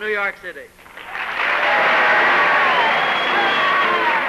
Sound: applause

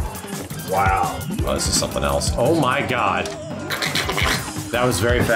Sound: duck noises

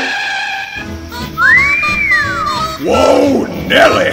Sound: wolf whistle

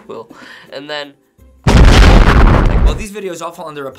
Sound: boom!!!

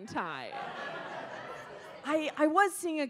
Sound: audience laughs

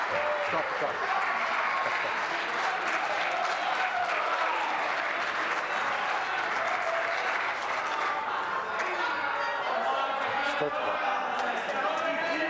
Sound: applause

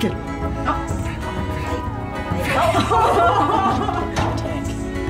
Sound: laughter

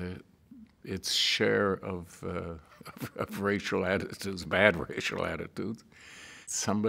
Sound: laughing

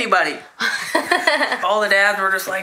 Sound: laughs

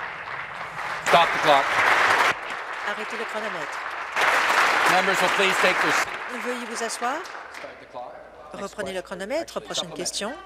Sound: applause

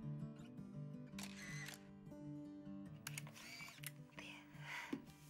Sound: camera clicks

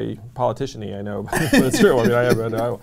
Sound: laughs

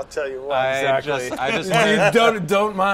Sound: laughter

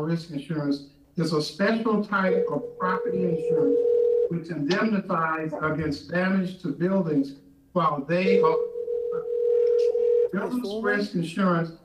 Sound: phone ringing

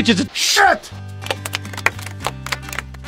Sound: clapping

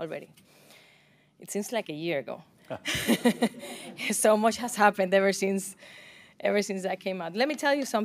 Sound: laughter

